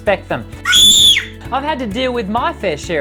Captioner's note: scream